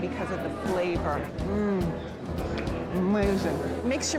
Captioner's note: hums